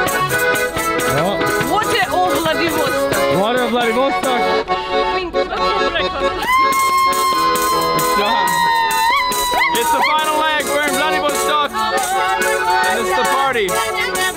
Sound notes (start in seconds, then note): 1.4 woman speaking in foreign language; 6.4 cheering